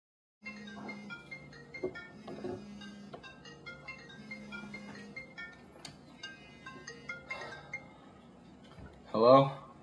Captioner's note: the phone rings